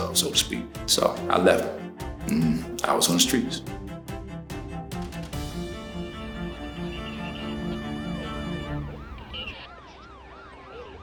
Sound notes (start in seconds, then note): 5.2 intense music; 8.0 sirens